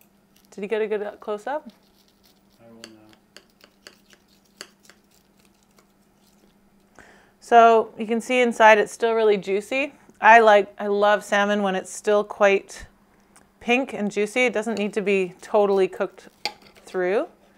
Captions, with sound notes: Did you get a good close-up? (fish crunching) So, you can see inside it's still really juicy. I love salmon when it's still quite pink and juicy. It doesn't need to be totally cooked through.